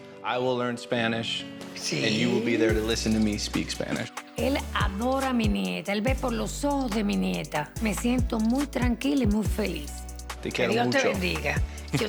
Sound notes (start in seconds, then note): 4.5 speaks Spanish; 10.6 speaks Spanish